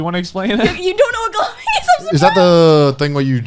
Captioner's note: laughs